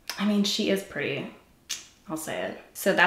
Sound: sucks teeth

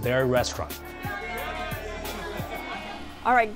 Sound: group cheering

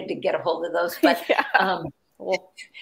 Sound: laughing

